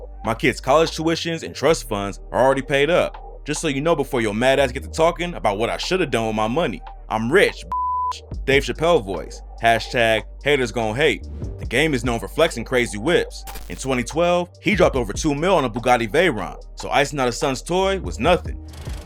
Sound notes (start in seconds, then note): 8.2 Dave Chappelle voice